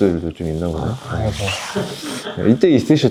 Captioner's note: grumbling grumbling